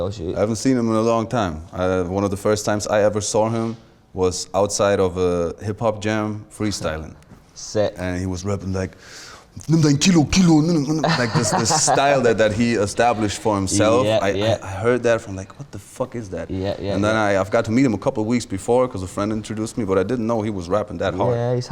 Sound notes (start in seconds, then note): 9.5 imitates Luciano